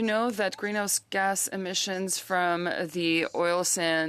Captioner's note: speaking French